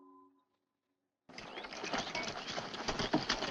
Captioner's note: horse clopping